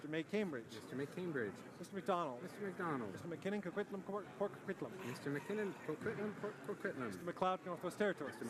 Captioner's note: speaking in french